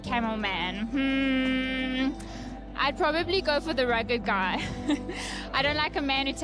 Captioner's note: laughs